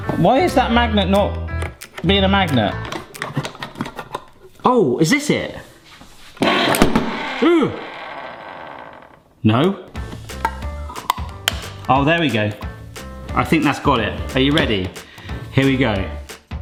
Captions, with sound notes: Why is that magnet not being a magnet? (can opener clicking) Oh, is this it? (can opener whirs) (can thuds) Uh. No. (upbeat music) (can opener clicking) Oh, there we go. I think that's got it. Are you ready? Here we go.